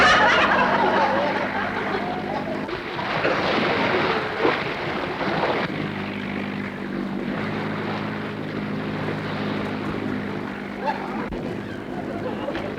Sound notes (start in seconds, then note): 0.0 audience laughter; 3.0 waves crashing